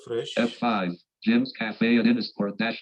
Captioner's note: automated Voice